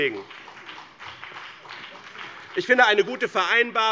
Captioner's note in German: Beifall BÜNDNIS 90/DIE GRÜNEN und vereinzelt CDU